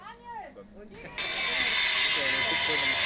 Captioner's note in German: Lautes Dröhnen